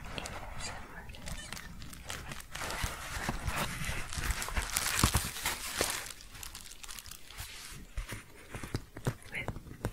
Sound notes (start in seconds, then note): 1.8 shuffling and crinkling